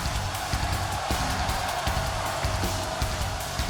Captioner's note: crowd cheers